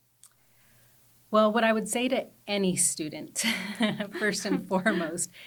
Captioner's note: chuckles